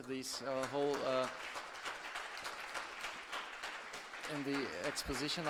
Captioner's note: applause